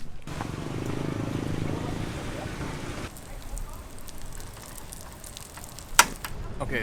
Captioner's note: motorcycle engine purrs, pancake sizzles